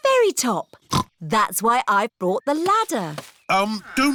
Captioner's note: snorts